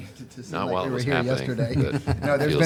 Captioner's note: laughs